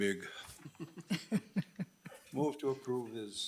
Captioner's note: committee members laugh